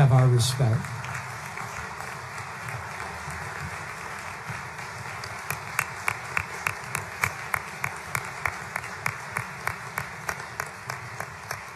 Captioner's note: applause